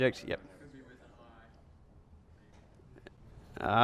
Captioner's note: voiceover